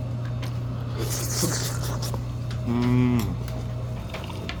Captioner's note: eating